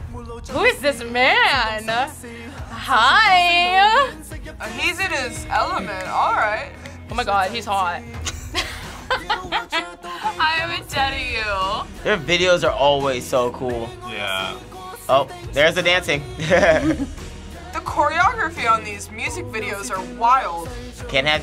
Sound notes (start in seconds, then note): 8.2 both laugh; 16.3 laughs